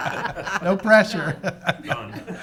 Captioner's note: laughing